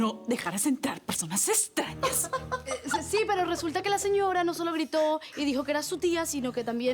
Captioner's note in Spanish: Iris ríe